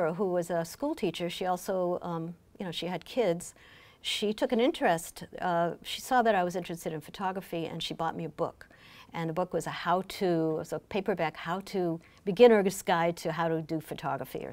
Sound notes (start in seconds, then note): none